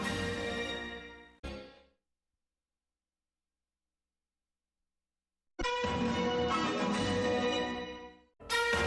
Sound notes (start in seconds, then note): 1.9 silence; 5.5 fanfares resume playing